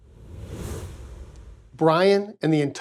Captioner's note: air whooshing